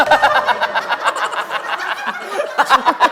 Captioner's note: laughing